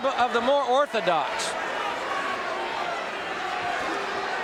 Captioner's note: audience cheering